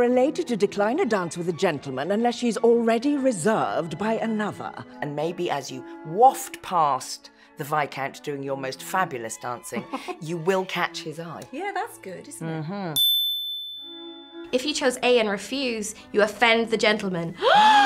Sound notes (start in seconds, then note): 13.0 bell ringing; 17.4 both gasping